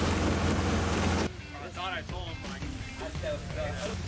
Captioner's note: worker chatter